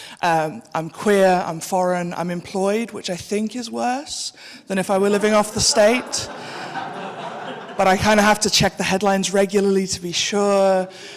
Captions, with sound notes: I’m queer. I’m foreign. I’m employed, which I think is worse than if I were living off the state. [audience laughing] But I kind of have to check the headlines regularly to be sure.